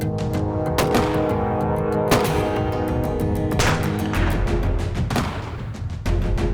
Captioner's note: gunfire